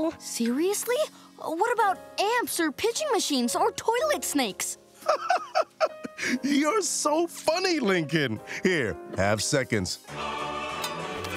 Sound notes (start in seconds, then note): 5.0 laughing